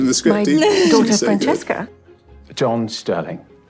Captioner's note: laughing